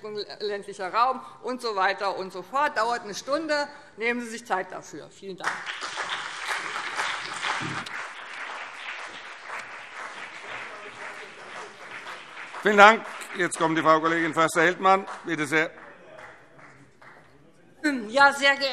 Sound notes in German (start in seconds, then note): 7.2 Beifall BÜNDNIS 90/DIE GRÜNEN und CDU